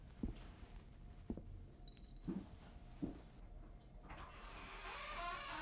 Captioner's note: footsteps slow down to stop at door; door creaks opened